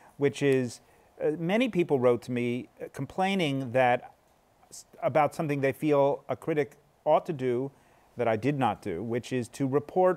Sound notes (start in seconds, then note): none